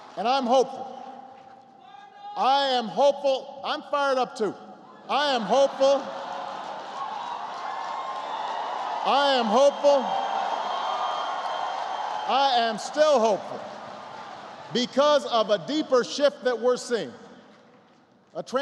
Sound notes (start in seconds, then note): 0.0 applause; 5.3 laughter; 7.1 applause